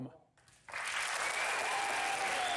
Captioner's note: applause